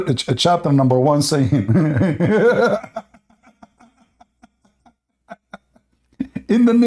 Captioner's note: Ketawa